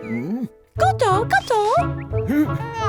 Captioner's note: speaks in gibberish